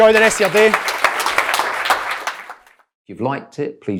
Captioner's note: audience applauding